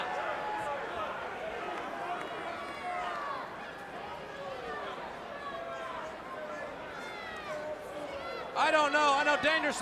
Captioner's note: crowd chatter